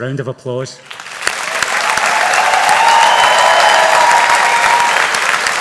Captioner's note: audience applauding